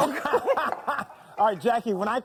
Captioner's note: both laugh